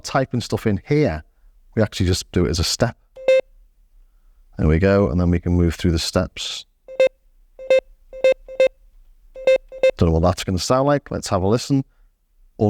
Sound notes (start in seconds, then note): 8.1 beeping